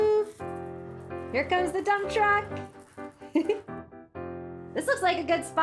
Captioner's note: giggles